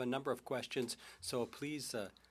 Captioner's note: speaking French